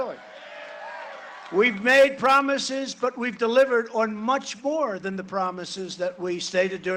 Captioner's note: cheering and applause